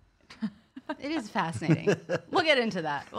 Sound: laughing

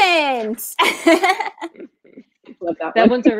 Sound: laughing

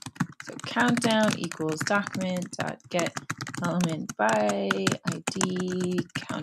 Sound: typing

